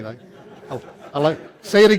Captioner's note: laughter